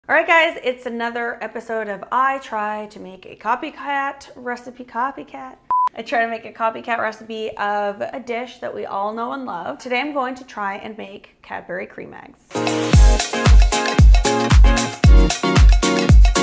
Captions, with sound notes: - All right guys. It's another episode of I try to make a copycat recipe copycat. (beeping) I try to make a copycat recipe of a dish that we all know and love. Today, I'm going to try and make Cadbury Creme Eggs. (funky music playing)